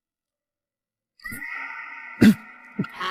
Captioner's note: cough, cough, cough